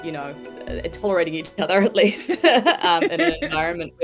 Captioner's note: Ruby laughs; laughs